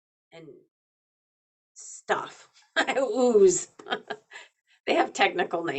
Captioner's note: laughing